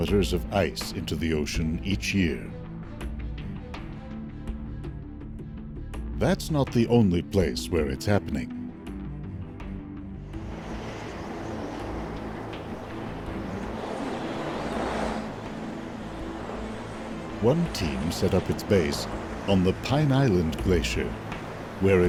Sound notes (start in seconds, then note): 10.7 gentle dramatic music; 10.7 wind howling